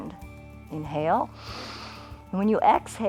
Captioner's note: inhales